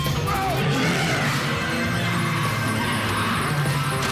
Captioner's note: roars